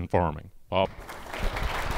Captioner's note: applause